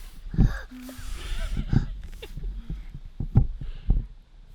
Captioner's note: laughing